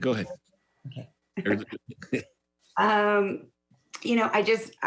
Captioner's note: laughs